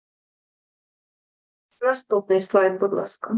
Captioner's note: foreign Language Spoken